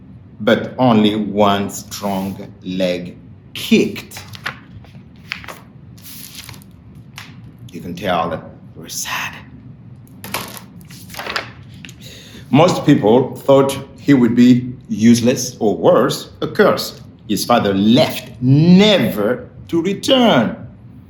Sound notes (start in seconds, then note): 4.0 pages rustling; 10.2 pages rustling